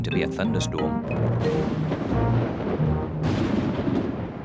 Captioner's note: thunder rumbles